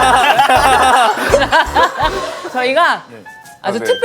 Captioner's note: tee hee